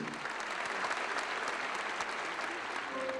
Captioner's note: applause